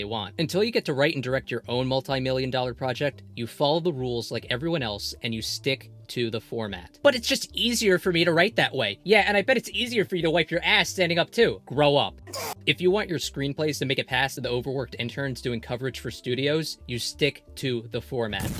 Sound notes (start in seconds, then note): 12.2 advanced age induced scream